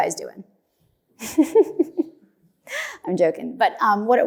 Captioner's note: laughs